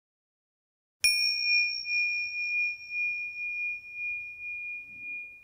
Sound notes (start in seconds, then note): 1.1 bell chimes